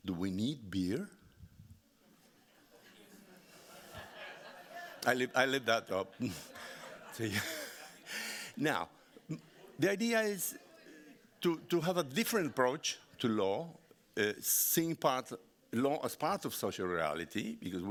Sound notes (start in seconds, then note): 2.5 audience laughing; 6.0 laughing